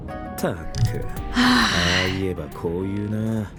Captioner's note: sighs